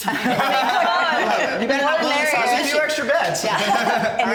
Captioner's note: laughing